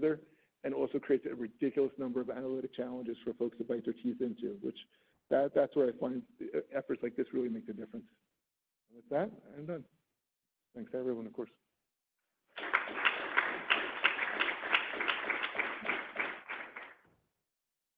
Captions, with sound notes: and also creates a ridiculous number of analytic challenges for folks that bite their teeth into which that's where I find efforts like this really makes a difference. With that, I'm done. And then thanks everyone of course (audience applauds)